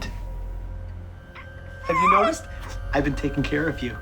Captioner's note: muffled scream